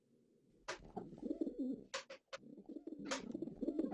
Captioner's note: the sounds of pigeons